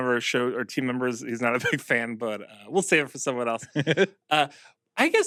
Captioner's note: chuckles